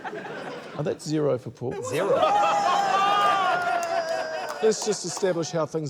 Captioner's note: laughter; all exclaim